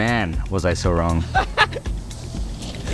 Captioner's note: howling in laughter